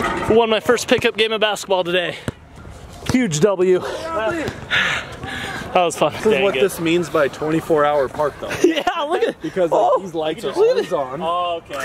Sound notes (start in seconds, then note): 5.0 panting